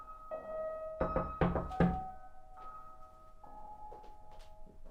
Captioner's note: knocking on door